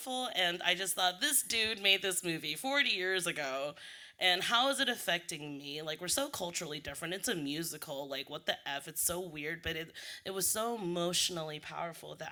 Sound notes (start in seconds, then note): none